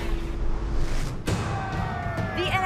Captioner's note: cheers and applause